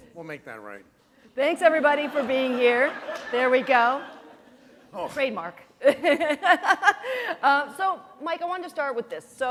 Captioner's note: laughter